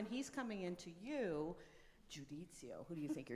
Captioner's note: speaks in foreign language